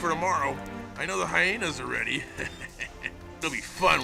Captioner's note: chuckling